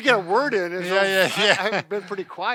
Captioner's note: laughs